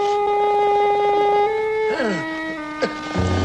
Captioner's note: groaning